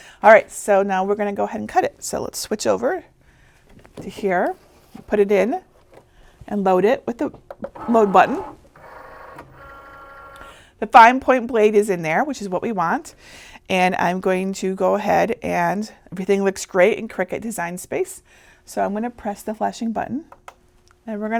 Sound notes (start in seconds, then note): 8.8 Cricut whirring